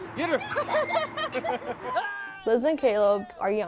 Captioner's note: laughs